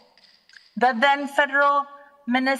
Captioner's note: clap sticks rattle